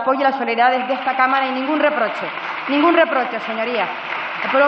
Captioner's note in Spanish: Aplausos